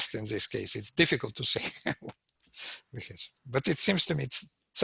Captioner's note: laughs